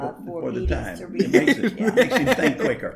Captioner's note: giggles